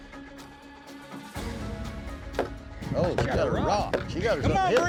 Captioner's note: rock thudding; cowboys shout encouragement